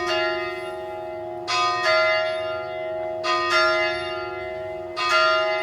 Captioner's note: church bells rings